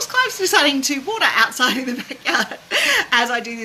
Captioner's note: laughs